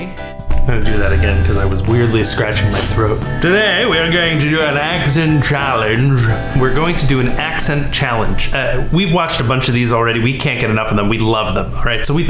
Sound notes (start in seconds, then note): 2.9 in a bizarre British accent